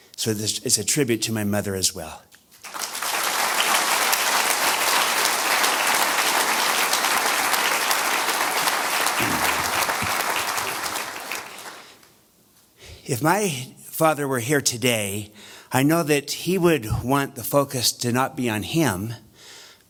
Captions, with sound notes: So this is a tribute to my mother as well. [audience applause] If my father were here today, I know that he would want the focus to not be on him,